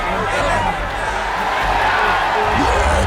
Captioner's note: cheering; cyclops roaring